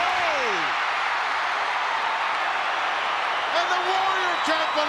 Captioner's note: crowd cheering